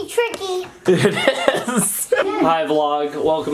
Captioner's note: laughing